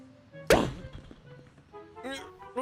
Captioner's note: pop